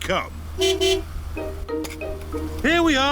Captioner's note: honks horn